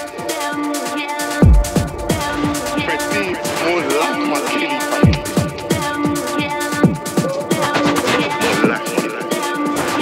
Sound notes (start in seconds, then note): 2.9 man's voice echoes